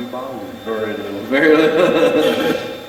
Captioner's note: Steve's Box chatters